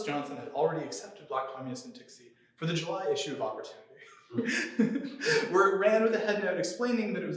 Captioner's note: laughter